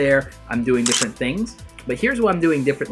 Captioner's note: camera clicking